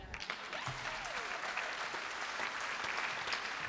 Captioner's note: applause